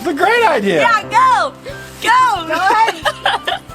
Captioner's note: laughs